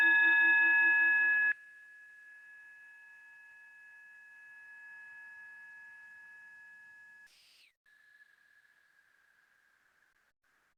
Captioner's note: bell ringing